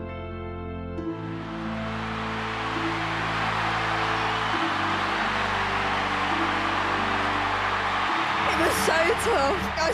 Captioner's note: crowd cheering